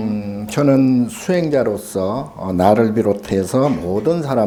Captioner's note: speaking Korean